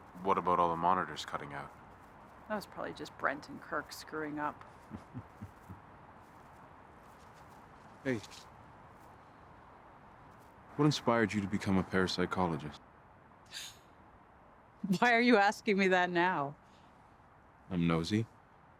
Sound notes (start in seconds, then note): 4.8 laughing; 13.5 chuckles